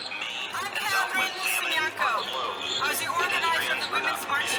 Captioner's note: crowd chanting